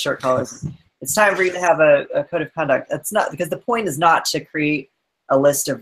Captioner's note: laughs